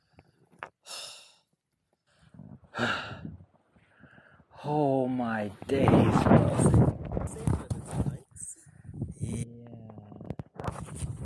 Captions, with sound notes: [sniffles, exhales deeply] Oh my days bro.